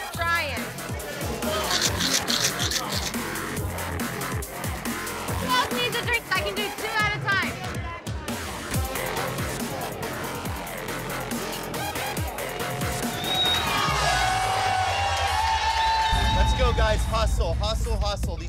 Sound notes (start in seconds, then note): 1.7 ice clinking; 12.8 patrons cheering